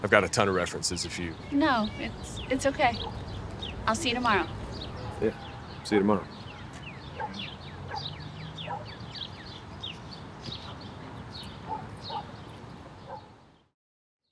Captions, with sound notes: I've got a ton of references if you-- - No, it's okay. I'll see you tomorrow. - Yeah, see you tomorrow. (birds chirping) (dog barking)